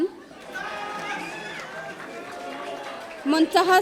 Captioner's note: audience cheering